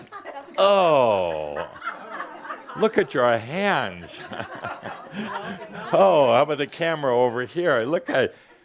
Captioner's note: some chuckles